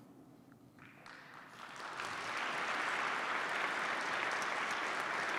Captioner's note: participants clap